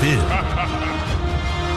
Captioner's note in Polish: śmiech